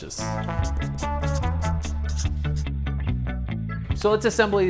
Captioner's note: marker scratching